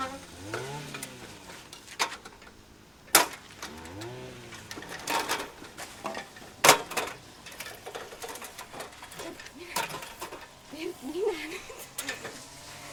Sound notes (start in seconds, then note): 2.9 metal ladder clatter